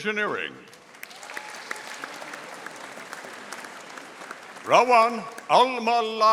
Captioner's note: audience applauding